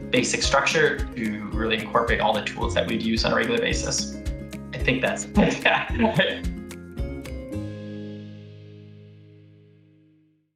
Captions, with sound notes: basic structure to really incorporate all the tools that we'd use on a regular basis. I think that's it. (laughs) (upbeat instrumental music)